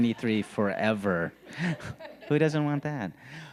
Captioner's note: people laughing